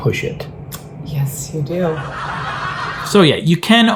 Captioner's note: crowd laughs